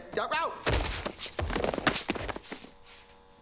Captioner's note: thud; clatter; buzzing